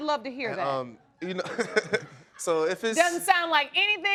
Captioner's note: laughs